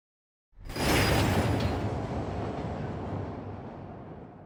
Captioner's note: succession of increasingly louder and clearer rumbles